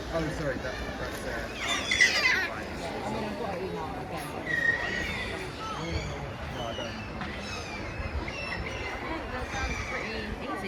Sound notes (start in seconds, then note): 0.1 seagulls squawk overhead